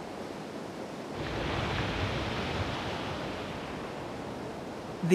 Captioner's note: water splashes